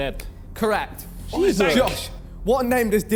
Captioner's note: men exclaiming